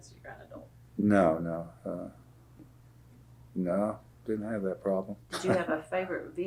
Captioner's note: laughs